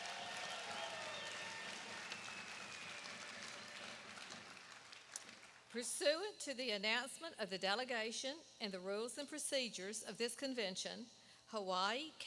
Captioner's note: applause